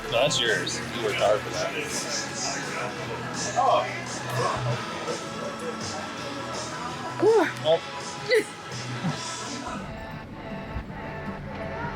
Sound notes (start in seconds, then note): 1.8 people chattering; 8.3 laughs; 9.7 lighthearted music